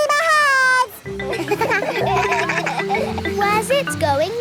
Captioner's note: kids laugh